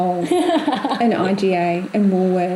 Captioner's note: laughs